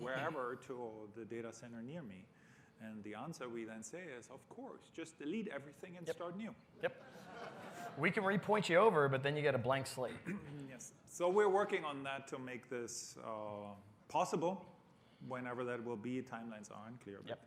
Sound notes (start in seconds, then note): 6.8 laughter